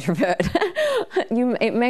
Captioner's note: laughing